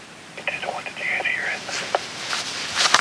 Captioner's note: over walkie